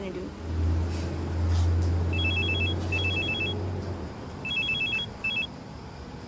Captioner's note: phone ringing